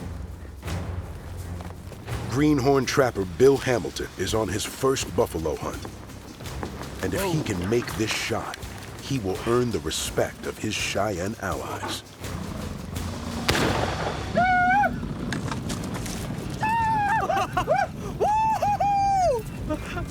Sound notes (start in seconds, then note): 13.4 gunshot; 16.0 laughs; 16.6 cheering; 19.1 cheers